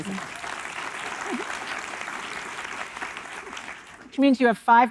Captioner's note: audience applauding